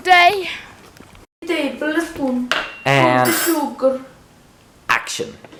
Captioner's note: Italian accent